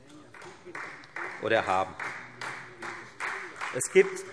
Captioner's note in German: Beifall Freie Demokraten und vereinzelt CDU